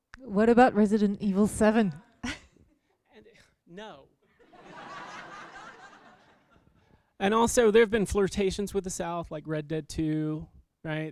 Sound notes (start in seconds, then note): 4.4 laughter